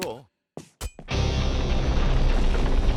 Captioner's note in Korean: 우르릉거리는 소리